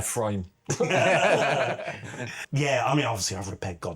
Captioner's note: laughter